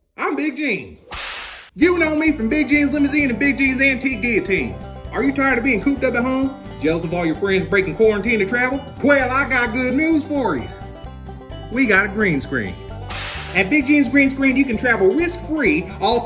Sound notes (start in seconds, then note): 1.0 whip cracks; 13.0 whip cracks